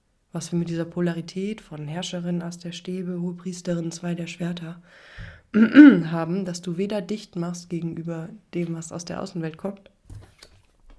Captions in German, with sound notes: was wir mit dieser Polarität von Herrscherin As der Stäbe, Hohpriesterin, zwei der Schwerter [räuspern] haben, dass du weder dicht machst gegenüber dem, was aus der Außenwelt kommt,